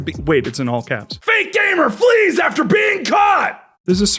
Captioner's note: shouting